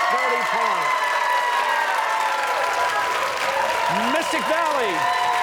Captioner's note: cheers and applause